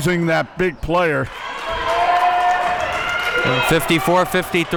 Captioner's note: audience cheering